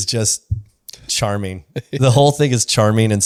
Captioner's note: laughs